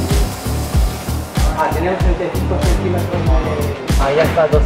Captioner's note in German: auf Spanisch